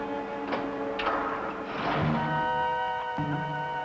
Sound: tense music; car revving; orchestral music

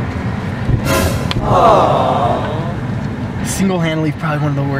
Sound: cooing

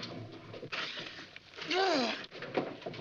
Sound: groaning

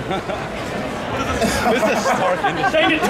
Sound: audience chattering; announcers laughing

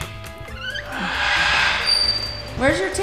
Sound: door squeaks; George sighs

